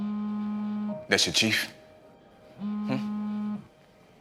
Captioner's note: phone buzzes